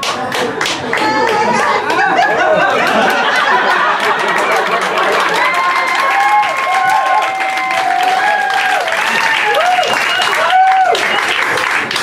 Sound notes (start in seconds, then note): 0.5 applause